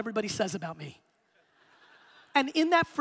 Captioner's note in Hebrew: הקהל צוחק